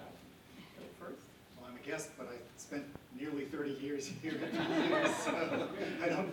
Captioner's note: laughter